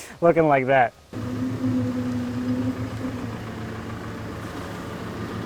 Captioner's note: engine revving